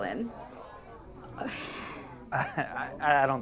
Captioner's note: Lynn sighs